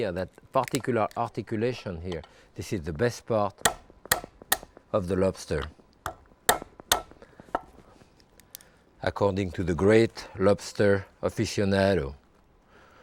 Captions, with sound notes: that particular articulation here. This is the best part of the lobster (lobster claw banging) according to the great lobster aficionado.